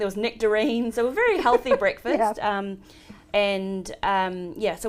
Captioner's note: laughs